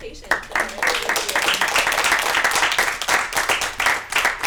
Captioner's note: applause